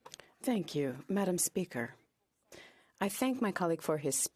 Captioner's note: speaking French